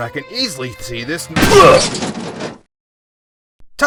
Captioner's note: crashing